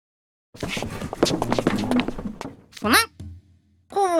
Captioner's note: shuffling noises